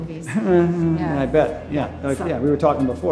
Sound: whimpers

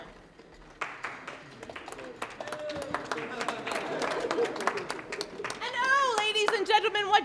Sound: applause

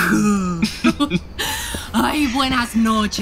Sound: laughing

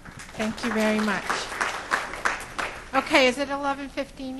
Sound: crowd applauds

